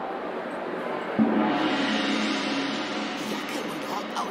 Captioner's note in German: Gong